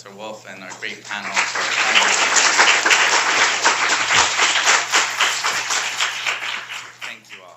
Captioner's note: applause